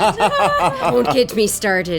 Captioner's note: laughing